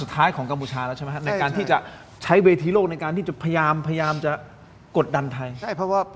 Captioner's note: takes a breath